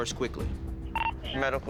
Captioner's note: radio beeps